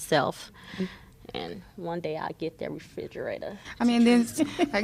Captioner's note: laughter